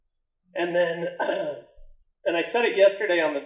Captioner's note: coughing